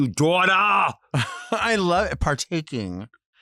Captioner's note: laughs